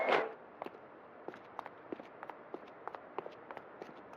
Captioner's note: steps clattering